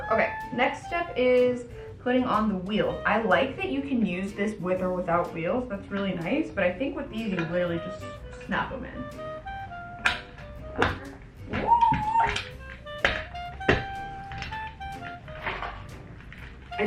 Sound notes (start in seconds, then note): 9.9 wheels clicks; 13.6 gentle music continues